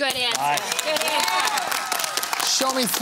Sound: applause

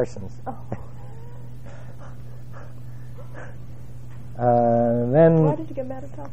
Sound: laugh

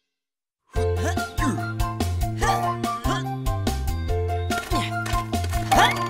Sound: exercising sounds

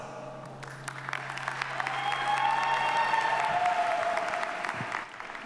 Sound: audience applauding

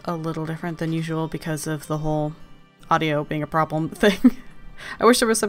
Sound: laughs

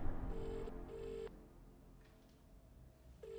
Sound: phone rings

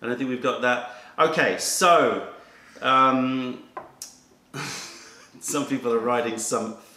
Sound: laughter

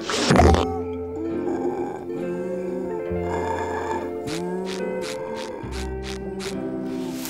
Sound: snoring

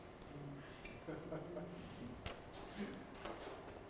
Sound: chuckling

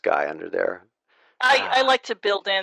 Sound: sighs

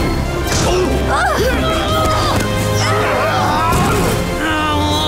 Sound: grunting

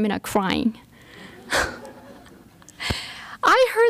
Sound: laughter

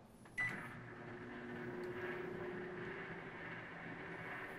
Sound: microwave sound; beeping

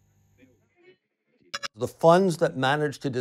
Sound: digital blip

